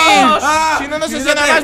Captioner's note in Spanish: Grita